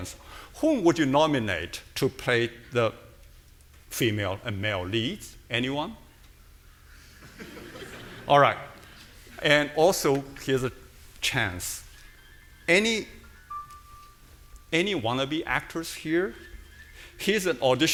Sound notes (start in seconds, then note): 6.9 audience laughing; 11.9 phone ringing